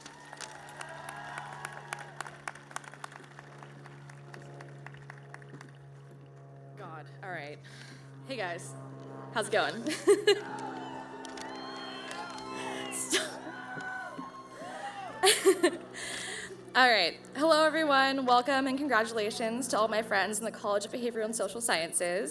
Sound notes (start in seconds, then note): 0.0 clapping; 13.8 cheering